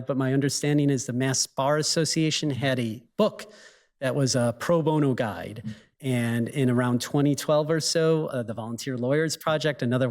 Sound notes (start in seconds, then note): none